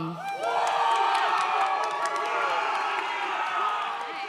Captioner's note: audience cheers